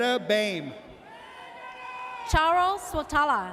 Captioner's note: audience cheers